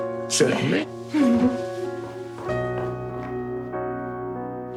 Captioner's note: chuckles